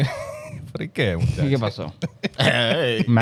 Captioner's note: speaking In Foreign Language